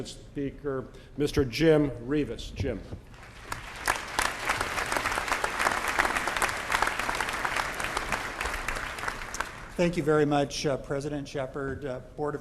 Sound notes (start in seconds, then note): 3.1 applause